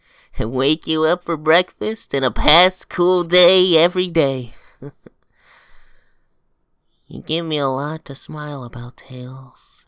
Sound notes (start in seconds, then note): 4.7 chuckles